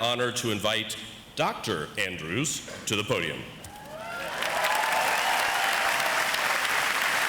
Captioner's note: audience applauds